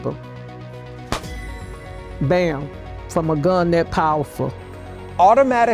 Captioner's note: claps hands